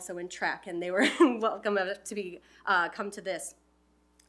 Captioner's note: laughs